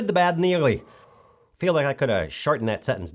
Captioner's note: deep breath